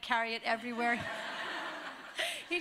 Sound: laughter

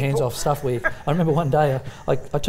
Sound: laughter

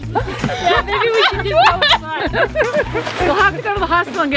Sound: laughter

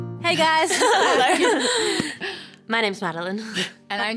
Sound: upbeat instrumental music; collective giggling

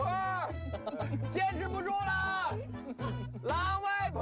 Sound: remote shouting for help

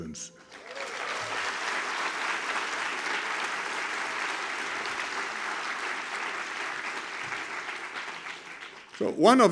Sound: applause

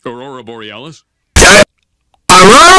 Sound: questions loudly

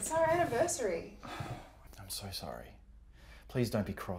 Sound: sighs

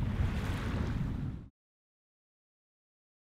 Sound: wave sounds

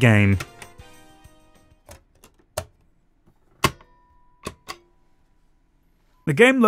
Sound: PlayStation noises

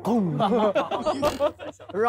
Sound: laughs out loud

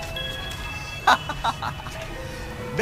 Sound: laughs

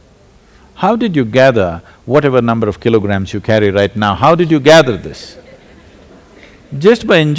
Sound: few laugh

